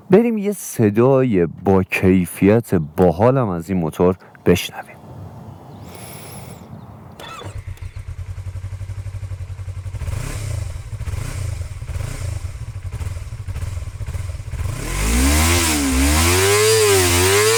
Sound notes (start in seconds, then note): 7.2 engine revving